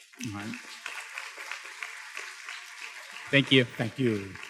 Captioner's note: students claps